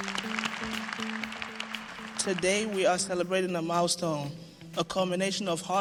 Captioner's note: applause